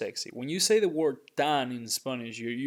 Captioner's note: speaking in Spanish